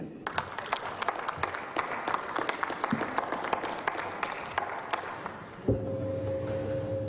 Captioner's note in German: Applaus